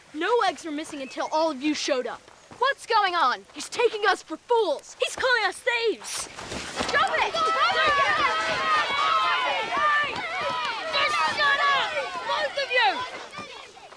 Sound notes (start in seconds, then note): 6.9 crowd cheering